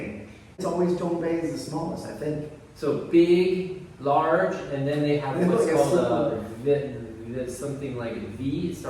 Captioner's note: Mandarin